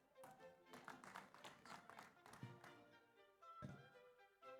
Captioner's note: audience applauds